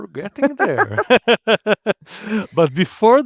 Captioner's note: both laughing